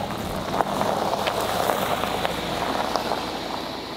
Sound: car engine roaring

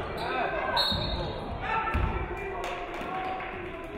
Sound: referee whistles

